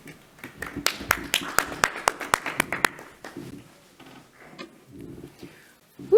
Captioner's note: attendees applauding